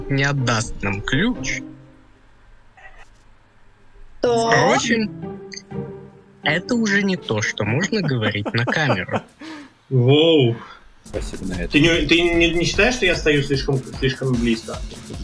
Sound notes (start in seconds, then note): 7.7 laughs